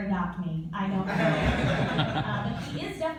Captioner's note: laughter